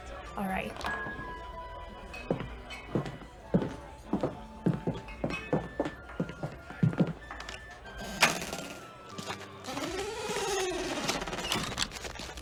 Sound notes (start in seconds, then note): 3.4 footsteps; 7.2 door creaks open, then closed, tavern sounds recede